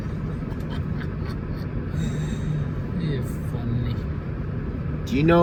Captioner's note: laughing